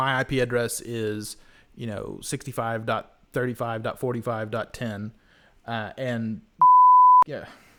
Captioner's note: beep